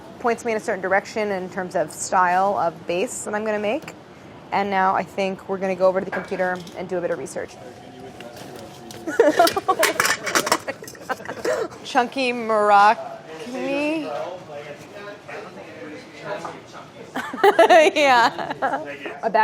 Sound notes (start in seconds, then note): 10.3 laughing; 17.1 laughs